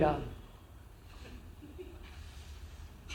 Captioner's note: laughs